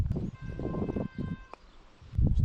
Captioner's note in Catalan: sona el claxon d'un automòbil